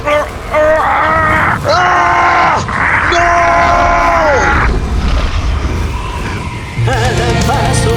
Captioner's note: the 3 halfwolves scream desperate during the free fall of the aircraft